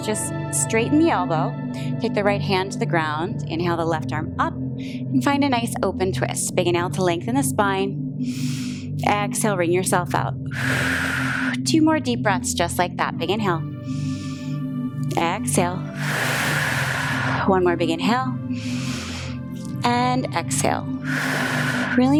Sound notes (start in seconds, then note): 10.5 exhales; 10.5 inhales; 13.9 inhales; 15.8 exhales; 19.2 inhales; 21.0 exhales